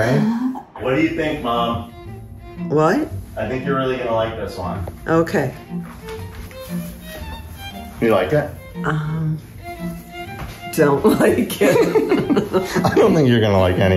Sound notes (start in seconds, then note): 11.6 both laughing